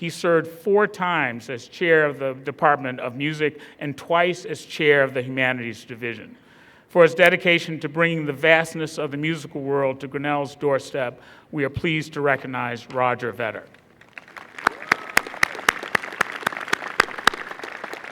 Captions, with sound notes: He served four times as chair of the department of music and twice as chair of the humanities division. For his dedication to bringing the vastness of the musical world to Grinnell's doorstep, we are pleased to recognize Roger Vetter. (applause)